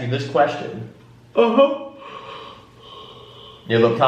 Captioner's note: yawns